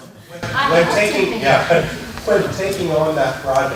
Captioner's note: laughter